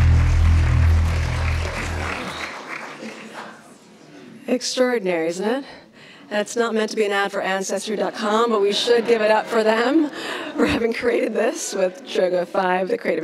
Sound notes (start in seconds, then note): 3.3 applauds; 8.5 laughs; 10.8 laughs